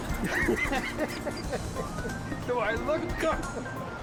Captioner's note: laughing